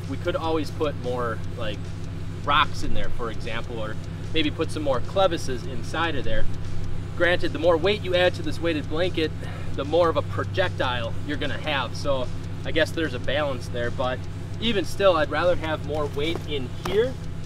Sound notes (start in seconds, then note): none